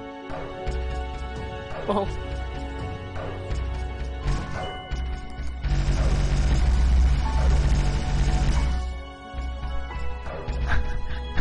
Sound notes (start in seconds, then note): 5.7 rapid ricochet noises